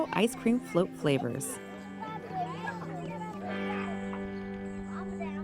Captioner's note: children chattering happily